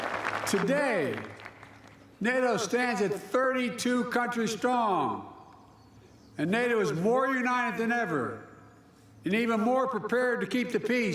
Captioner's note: applause